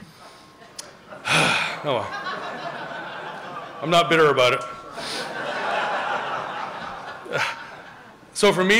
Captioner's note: sighs